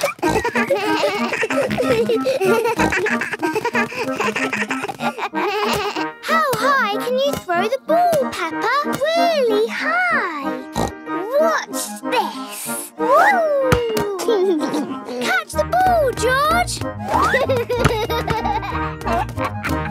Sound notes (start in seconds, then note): 0.0 giggles; 1.9 snorts, bleating; 10.7 snorts; 13.1 giggles; 17.0 giggles